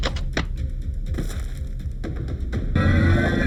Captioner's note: body thuds; shark roaring